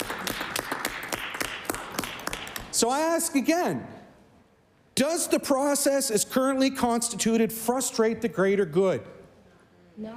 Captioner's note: applause